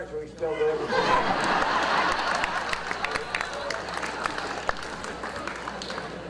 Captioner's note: audience laughter and applause